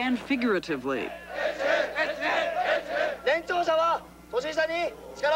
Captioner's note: chanting in Japanese